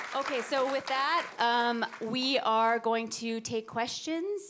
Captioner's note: audience applauding